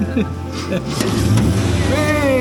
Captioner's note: laughs